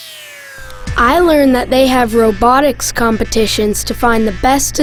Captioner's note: voiceover